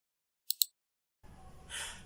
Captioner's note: mouse click